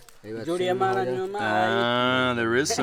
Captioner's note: speaking in foreign language